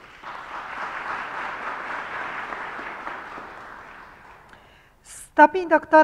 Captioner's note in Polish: oklaski